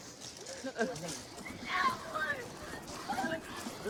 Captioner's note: yelling